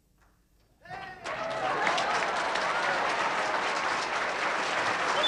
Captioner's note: audience applauding